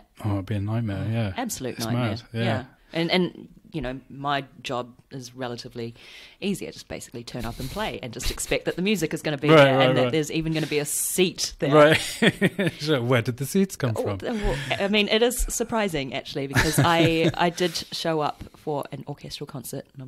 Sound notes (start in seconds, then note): 14.0 laughs